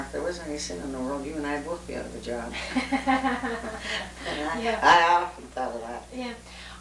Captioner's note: laughter